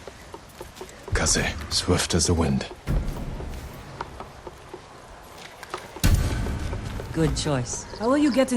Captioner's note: wind